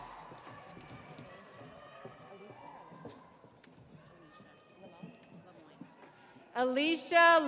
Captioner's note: audience cheering